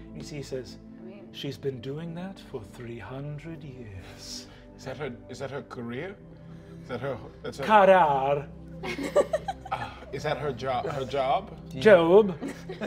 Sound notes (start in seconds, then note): 8.9 all giggling